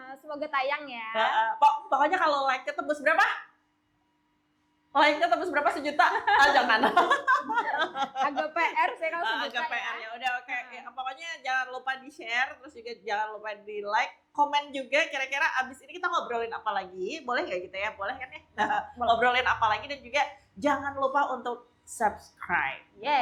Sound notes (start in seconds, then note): 5.8 laughs